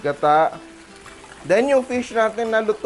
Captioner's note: sizzle